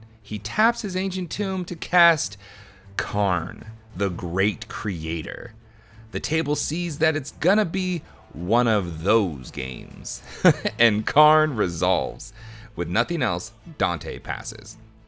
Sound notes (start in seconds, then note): 10.1 narrator laughs